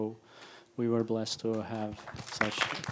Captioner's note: applauding